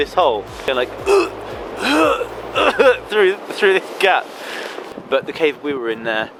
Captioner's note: grunting